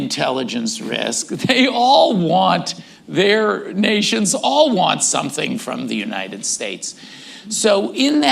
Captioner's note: laughs